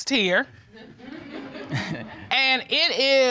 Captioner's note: audience laughs; chuckles